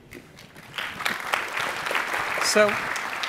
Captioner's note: applause